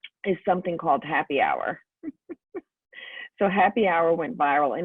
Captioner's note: laughs